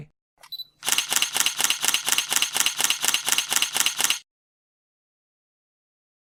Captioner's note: camera beeping; camera shutter clicking